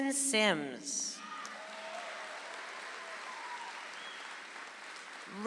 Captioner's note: audience applauds